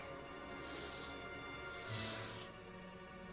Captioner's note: breathing heavily